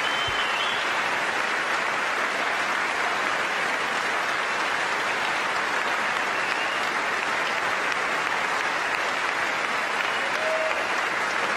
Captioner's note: applause